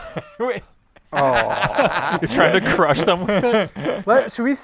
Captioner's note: laughter